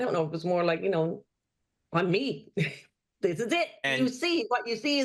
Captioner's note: laughs